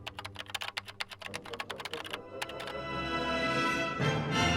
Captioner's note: keys continue tapping